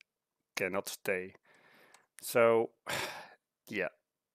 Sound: sigh

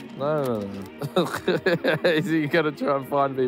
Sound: laughs

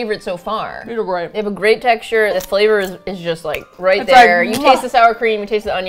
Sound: snaps

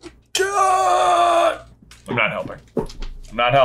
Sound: groaning

